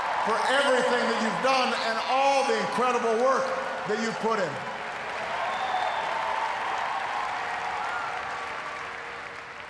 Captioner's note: cheers, applause